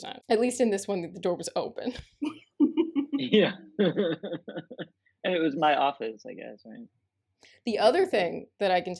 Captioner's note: laughter